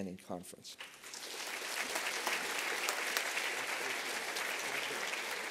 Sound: applause

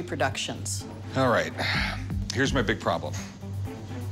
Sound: exhales

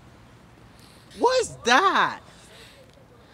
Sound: Diego sniffing

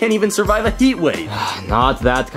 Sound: Luigi sighing

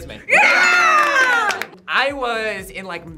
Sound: group cheers

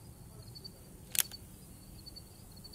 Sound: click

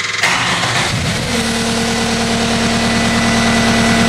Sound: engine revving

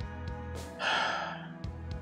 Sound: sighs

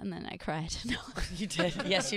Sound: laughing

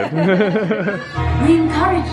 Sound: both chuckling

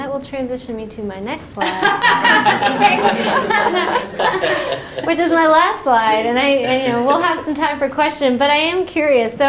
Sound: laughter

